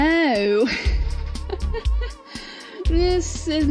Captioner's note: awkward laugh